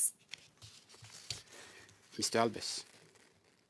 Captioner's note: speaking French